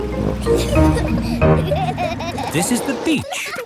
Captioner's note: children giggling